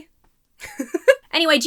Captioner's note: giggles